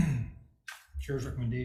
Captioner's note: clears throat